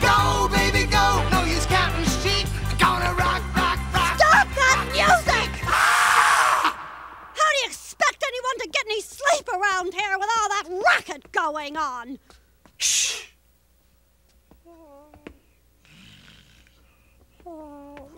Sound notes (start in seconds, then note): 5.6 screams; 12.2 gasp; 15.8 tiny whimpers, snores